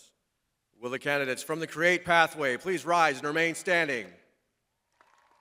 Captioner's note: crowd applauding